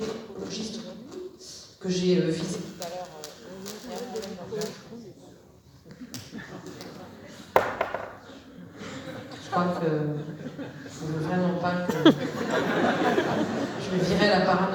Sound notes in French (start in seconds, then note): 11.8 rire